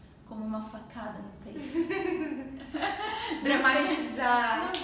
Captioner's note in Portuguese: risos